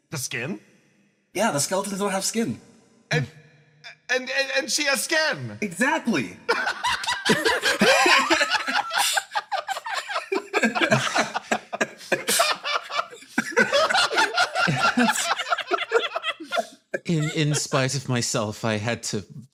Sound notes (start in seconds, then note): 6.4 laughs